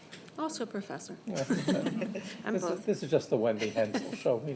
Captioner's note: laughter